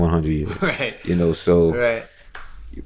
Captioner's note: laughter